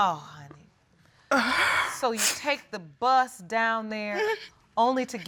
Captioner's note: sobbing